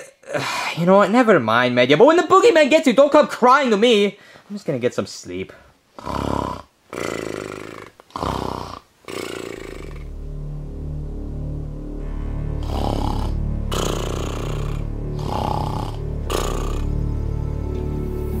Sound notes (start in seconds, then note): 0.0 sighing; 6.9 snoring; 10.5 gentle dramatic music; 13.6 Luigi snoring continues